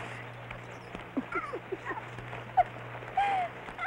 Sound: laughing

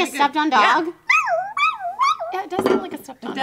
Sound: whimpering sounds

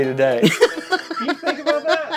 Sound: laughing

